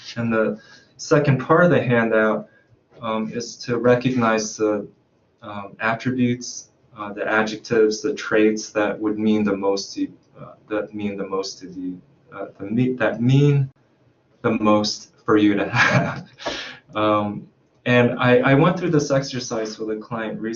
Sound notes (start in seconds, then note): 15.5 laughs